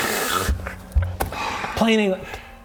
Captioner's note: sigh